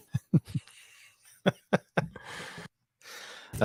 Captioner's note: laughs